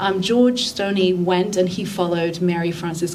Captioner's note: none